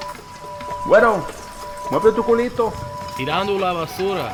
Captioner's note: Spanish